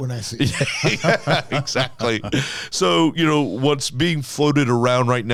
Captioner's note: laughing